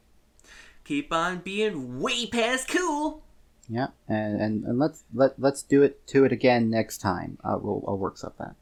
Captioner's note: imitates Sonic